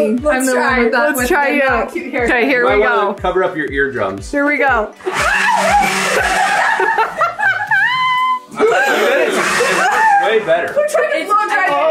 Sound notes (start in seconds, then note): 5.0 whooshing leaf blower; 5.0 screaming; 7.3 all laughing